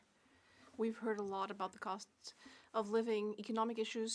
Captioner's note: speaking French